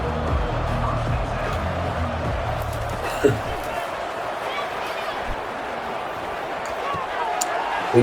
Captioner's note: crowd Noises